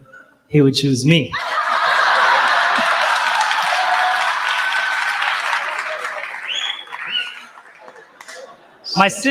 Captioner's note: laughter and applause